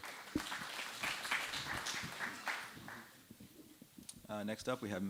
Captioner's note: applause